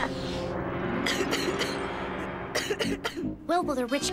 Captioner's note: coughg